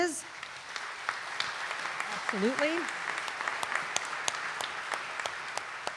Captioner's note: audience applauding